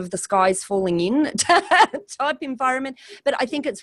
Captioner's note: laughs